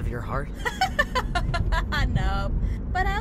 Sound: laughs

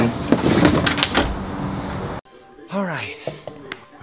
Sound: object clattering

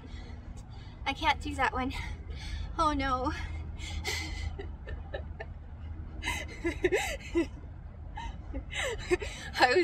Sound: laughs

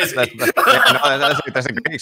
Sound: laughs

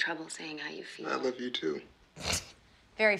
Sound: scoffs

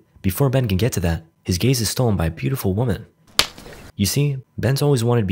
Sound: smack on end

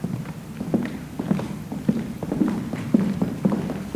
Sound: foot steps receding

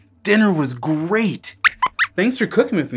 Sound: squeaks squeaks

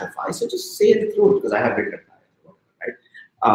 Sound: speaking softly

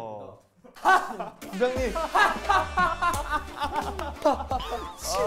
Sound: ha ha ha ha ha

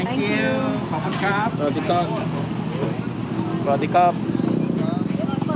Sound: speaking Thai

